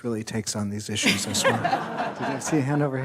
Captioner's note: everyone laughs